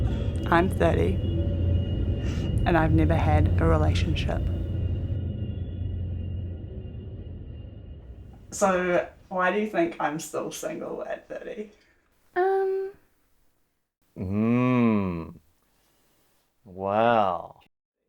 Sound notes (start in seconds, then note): 5.5 train noise fades